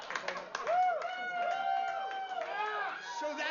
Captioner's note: aplausos